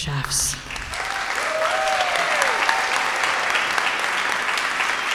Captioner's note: audience applauding